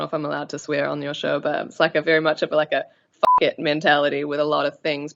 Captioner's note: beep